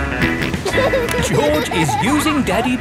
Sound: snorts and laughs

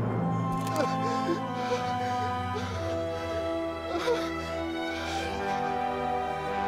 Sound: Scout sobbing

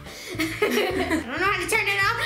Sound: laughing

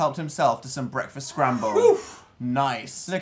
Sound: sigh of relief

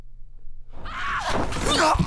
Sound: yells

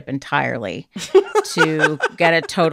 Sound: laughter

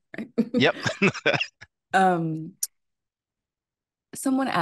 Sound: laughing

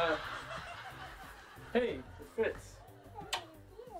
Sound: kisses

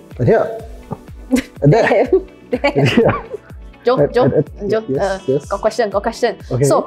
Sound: giggling

